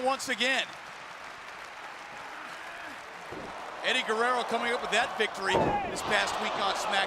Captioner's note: applause